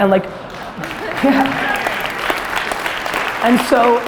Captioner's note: audience applause